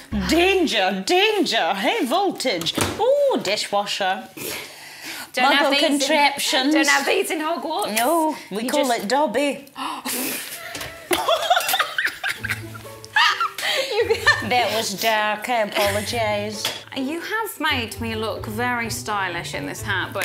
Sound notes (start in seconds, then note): 9.8 gasps; 10.3 both laughing